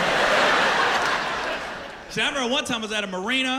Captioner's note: laughter